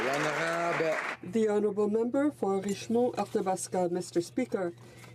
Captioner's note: some Applause